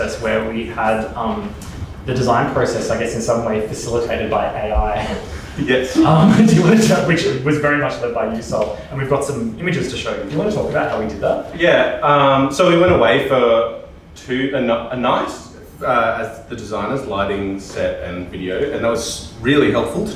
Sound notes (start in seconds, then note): 5.5 laughs